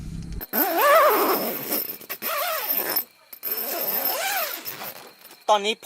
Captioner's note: zipping sound